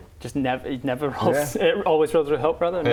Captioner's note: none